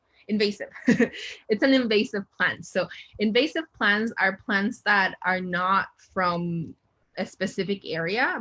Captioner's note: chuckle